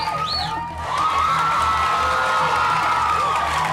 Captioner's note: cheering